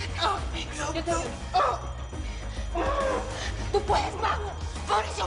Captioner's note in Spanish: quejidos